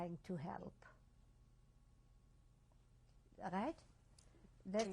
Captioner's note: pauses for 3 seconds